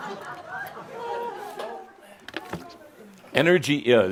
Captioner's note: laughter